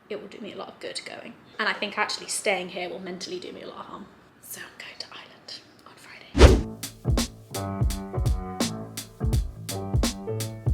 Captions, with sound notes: it will do me a lot of good going. And I think actually staying here will mentally do me a lot of harm. So I'm going to Ireland on Friday. (whooshing sound) (mellow music)